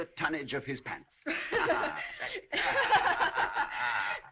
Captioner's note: كلاهما يضحك